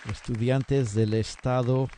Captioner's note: applause